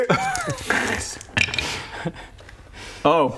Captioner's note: hopeful clink